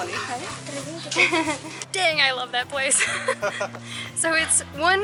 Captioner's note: laughter